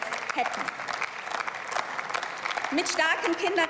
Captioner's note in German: Beifall